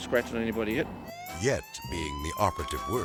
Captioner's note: sirens blaring